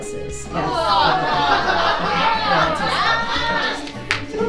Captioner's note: audience laughing